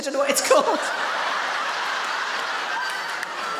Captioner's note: audience laughs